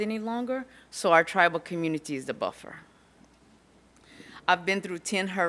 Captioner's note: none